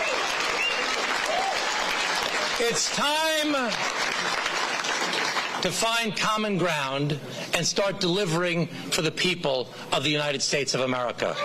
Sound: cheering

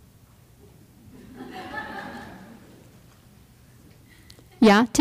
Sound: laughter

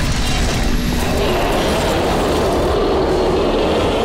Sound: crashing; creature roaring; adventurous music

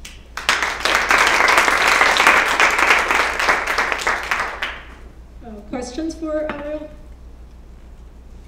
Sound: applause

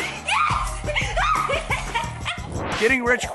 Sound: woman yells!

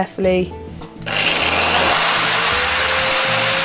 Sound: drilling

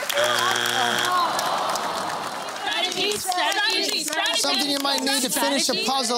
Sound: groaning

